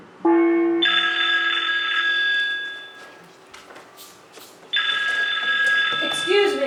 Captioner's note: phone ringing